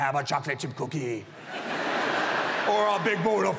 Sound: audience laughs

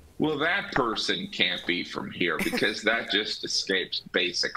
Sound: laughter

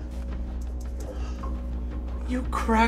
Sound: gasps

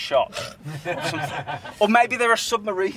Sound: laughter

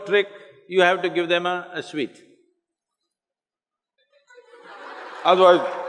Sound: laughter

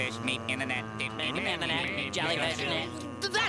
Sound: chattering

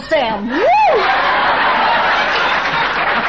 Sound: audience laughing

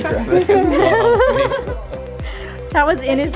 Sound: chuckles

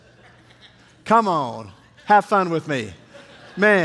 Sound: congregation laughing

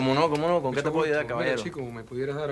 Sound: speaking spanish

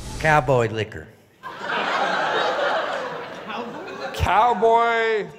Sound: laughter

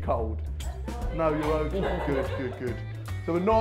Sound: laughs

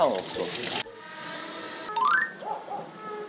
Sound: A drone

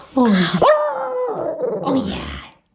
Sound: howling

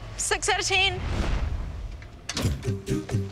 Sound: logo swooshes; singers vocalizing

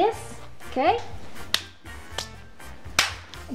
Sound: slaps foot

